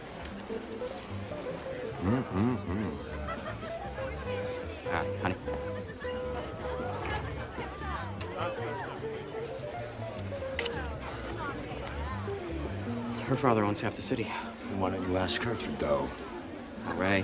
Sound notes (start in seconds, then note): 7.5 patrons chatter